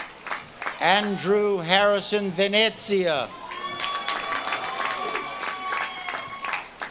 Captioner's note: audience claps and cheers